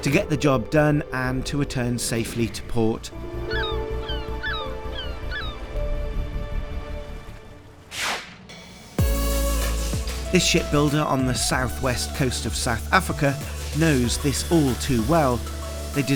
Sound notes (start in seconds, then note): 3.1 upbeat music; 5.2 air whooshes; 5.2 birds squawking; 8.9 upbeat music